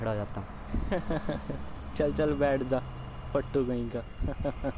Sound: laugh

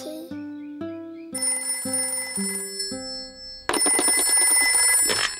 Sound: phone rings

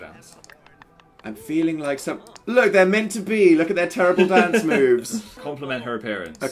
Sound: laughs

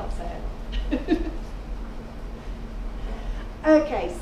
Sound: laughing

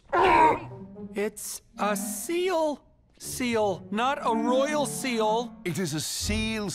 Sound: barks

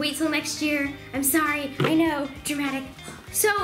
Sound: sighs

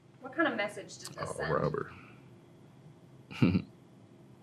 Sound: laughs

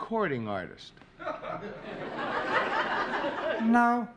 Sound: laughter

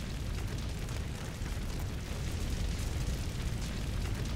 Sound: fire crackling

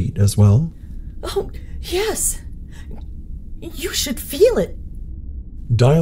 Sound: gulp

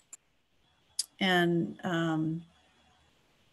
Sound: clicking

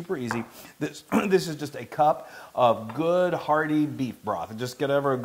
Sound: cough

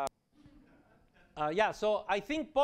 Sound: laughter

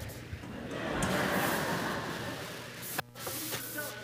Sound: laughter

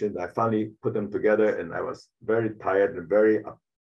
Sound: none

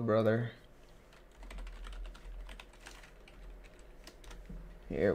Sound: typing

